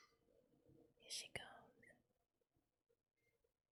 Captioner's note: whispers